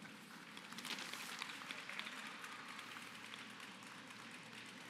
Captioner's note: applause